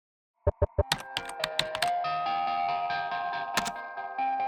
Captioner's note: typing sounds